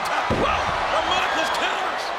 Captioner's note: body thuds